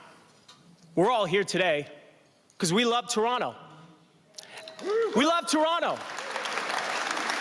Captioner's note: applause